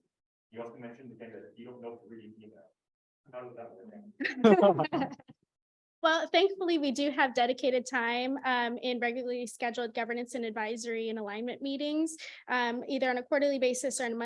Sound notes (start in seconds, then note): 4.2 soft laughter